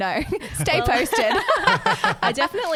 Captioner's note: laughing together